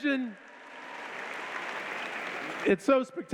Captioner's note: applause